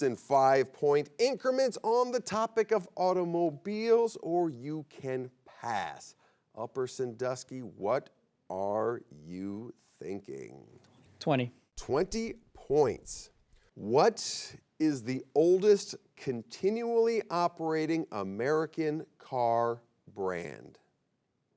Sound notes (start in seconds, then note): none